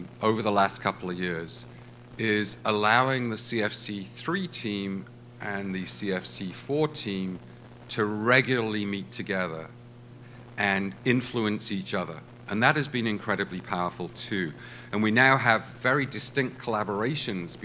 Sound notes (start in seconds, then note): none